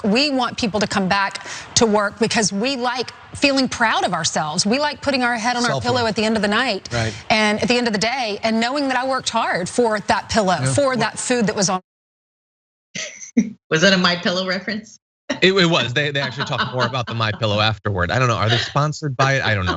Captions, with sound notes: We want people to come back to work because we like feeling proud of ourselves. We like putting our head on our pillow at the end of the night and at the end of the day, and knowing that I worked hard for that pillow, for that food that was- >> [LAUGH] Was that a My Pillow reference? >> It was, they actually talk more about the My Pillow afterward. I don't know, are they sponsored by it?